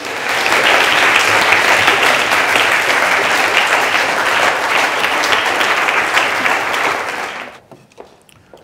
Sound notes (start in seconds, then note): 0.0 applause